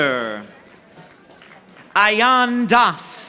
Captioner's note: audience applauding